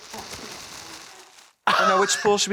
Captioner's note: crew laughs